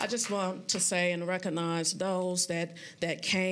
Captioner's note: applause